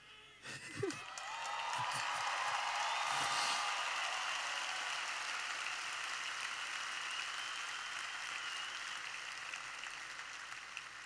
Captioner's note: cheering